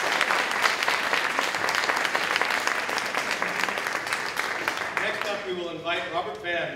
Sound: applause, cheering

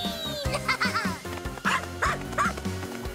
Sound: barking

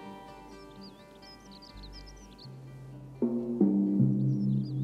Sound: birds chirping

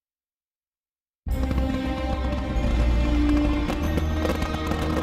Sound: silence; fireworks crackling as orchestral music plays

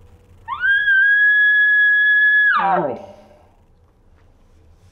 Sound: elk call sound

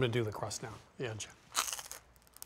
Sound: crunches

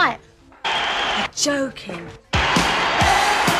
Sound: crowd roaring

